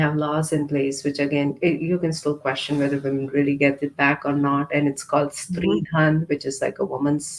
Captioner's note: hindi 00:24:25